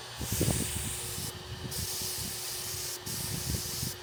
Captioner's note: nozzle hissing